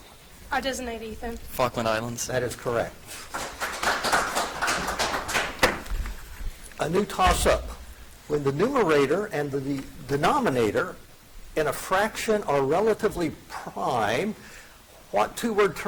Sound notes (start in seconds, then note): 3.0 audience applauds